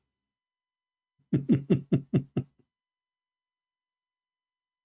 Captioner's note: Ketawa